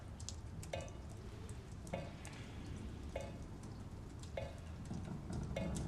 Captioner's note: water dripping